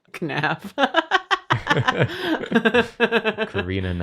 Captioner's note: laughs madly